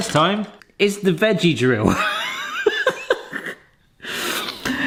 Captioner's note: laughs